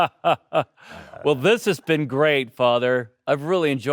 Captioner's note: Alexander laughing